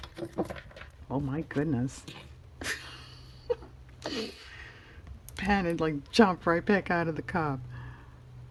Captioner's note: laughs